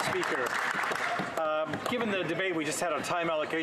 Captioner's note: applause